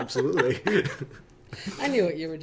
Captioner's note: laughing; laughs